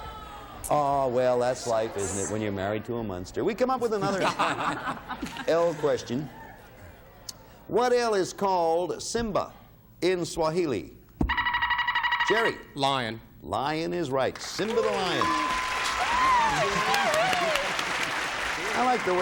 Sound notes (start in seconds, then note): 4.0 all laugh; 11.2 buzzer beeping